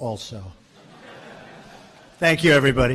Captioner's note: laughter